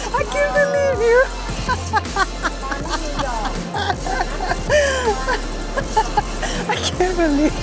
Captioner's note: laughing